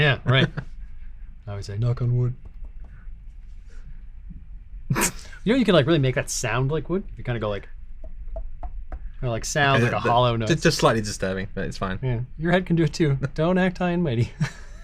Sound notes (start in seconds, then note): 8.3 knocking; 14.2 laughs